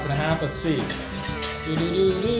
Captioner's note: whisk swishing